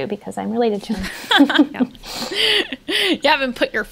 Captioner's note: they laugh